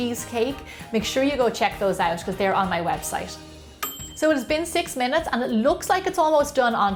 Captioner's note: ding!